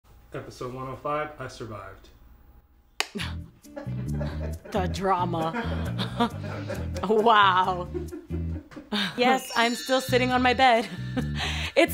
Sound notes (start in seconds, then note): 3.7 laughs; 5.6 people laughing